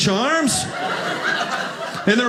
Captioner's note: audience laughing